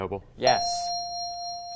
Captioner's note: ding